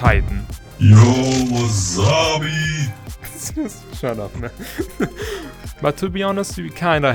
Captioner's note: laughing